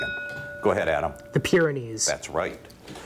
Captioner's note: bell dinging